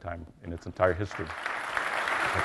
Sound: applause

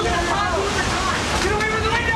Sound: massive, sudden increase in wind

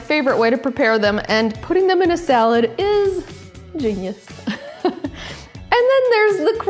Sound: laughs

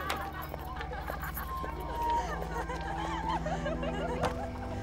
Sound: indistinct chatter

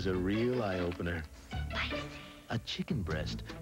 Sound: woman whispers: Spicyyyyyyyyyyyyyyyy

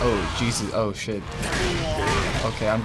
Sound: Blaziken groans

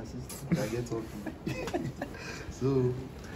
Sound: laughs

